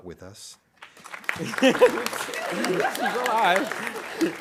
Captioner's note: audience applauding